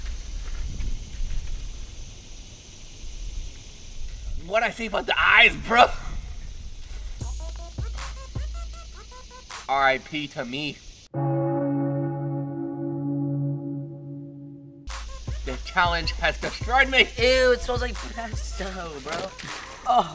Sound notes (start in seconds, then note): 11.1 church bell ringing